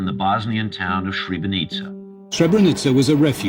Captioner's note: soundbite of archived recording